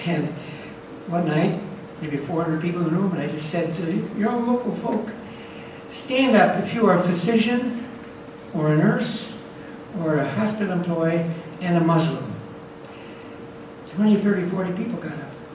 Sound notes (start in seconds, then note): none